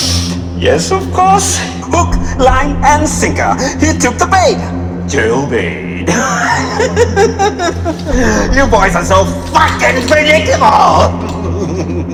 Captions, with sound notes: - Yes, of course, hook, line, and sinker, he took the bait, jail bait. (laughs) You boys are so fucking predictable. (laughs)